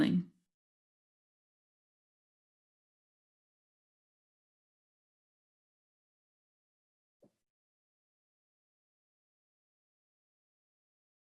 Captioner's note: silence